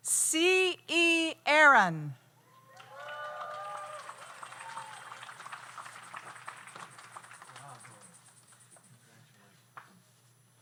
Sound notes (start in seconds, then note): 2.5 audience cheers; 2.7 audience applauds